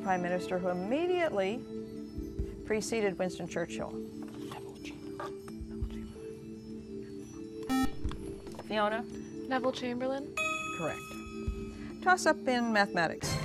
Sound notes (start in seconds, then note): 4.2 whispering; 7.7 buzzer